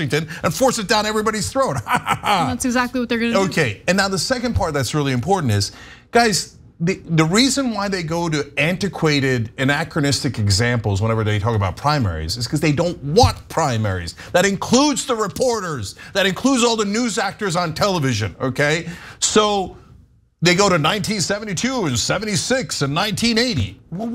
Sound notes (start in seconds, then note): 1.7 laugh